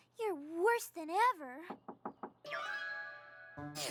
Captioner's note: knock on door